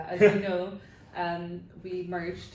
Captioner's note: laughs